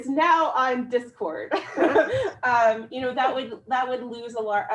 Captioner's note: laughs